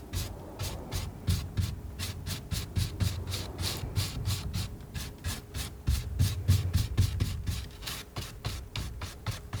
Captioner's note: scratching